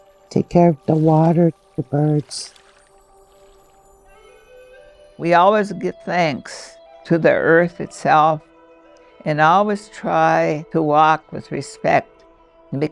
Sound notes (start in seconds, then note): 2.9 graphics tinkling; 4.5 wind instrument blowing gently; 6.8 birds twittering distantly